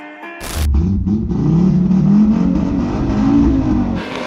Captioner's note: mellow music with slow beat; car starting up